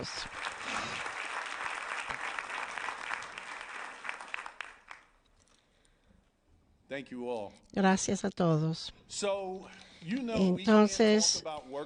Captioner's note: applause